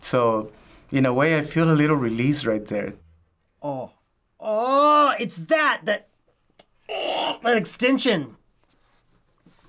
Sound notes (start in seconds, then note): 6.4 gurgles